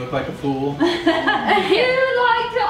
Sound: laughs

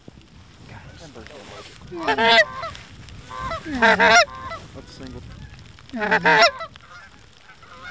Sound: goose Calling

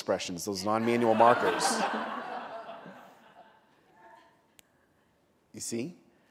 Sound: laughter

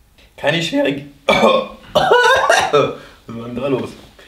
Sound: starts coughin

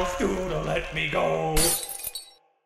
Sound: crack

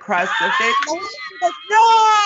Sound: Brennan laughs

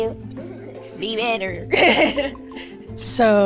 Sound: laughs

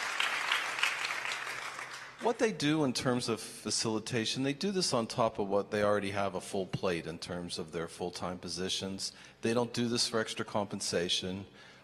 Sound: applause

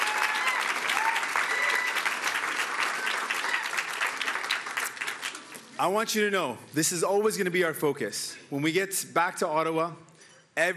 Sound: cheering

